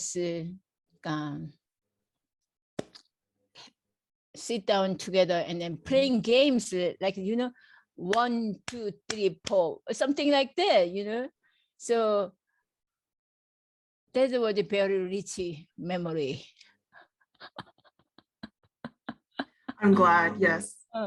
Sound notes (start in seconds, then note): 9.0 claps; 17.3 laugh